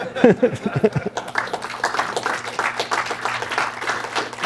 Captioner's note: laughs; applause